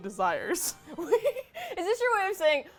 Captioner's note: laughs